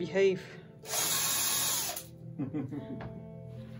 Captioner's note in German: lacht